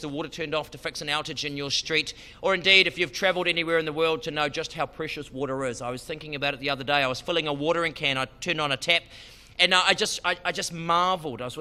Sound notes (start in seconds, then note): none